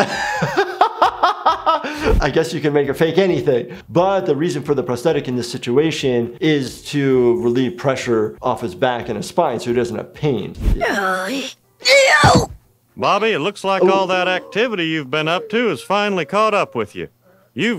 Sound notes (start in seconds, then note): 0.1 laughs; 11.8 Bobby groaning